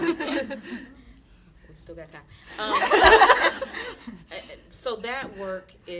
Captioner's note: audience laughing